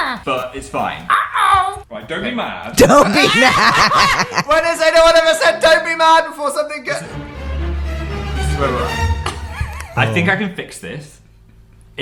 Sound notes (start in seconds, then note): 1.1 Toad voice; 2.8 laughing; 2.9 cackle laugh